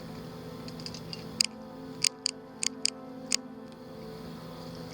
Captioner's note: flashlight clicking